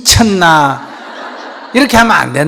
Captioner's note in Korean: 청중 웃음